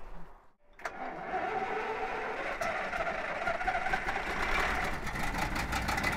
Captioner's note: ignition; revving up the engine